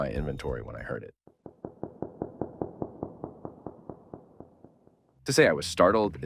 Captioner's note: ambient sound of water